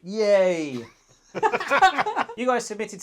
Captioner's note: both laughing